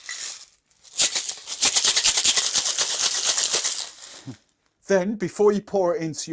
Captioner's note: ice cubes clinking on metal cup